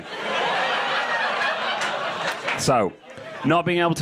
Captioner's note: crowd laughs